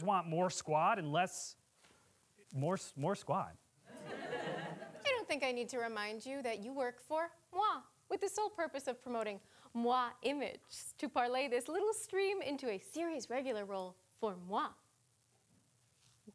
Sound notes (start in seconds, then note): 3.9 audience laughing